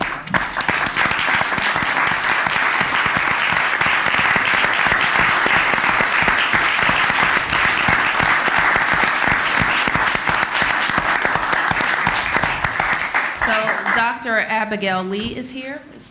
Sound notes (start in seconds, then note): 6.3 applause